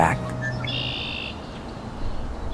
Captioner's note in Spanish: Trinos